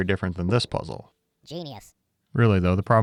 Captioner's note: automated Voice